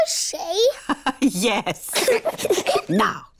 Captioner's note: laughs; both giggle